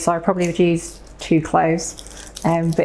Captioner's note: none